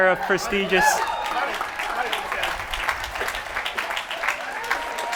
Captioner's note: applause